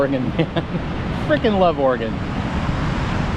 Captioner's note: engine revving